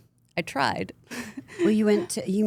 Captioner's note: laughs